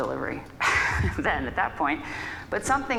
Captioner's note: laughs